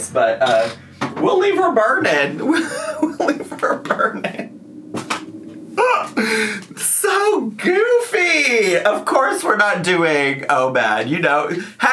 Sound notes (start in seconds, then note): 6.4 laughs